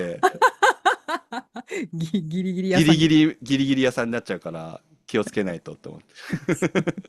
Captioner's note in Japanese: 笑い; 笑い